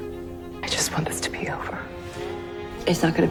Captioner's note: voiceover